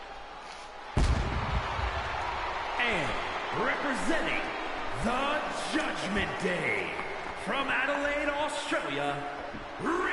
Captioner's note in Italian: Applauso